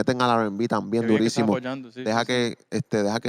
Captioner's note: speaking Spanish